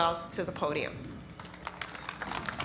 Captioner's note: applause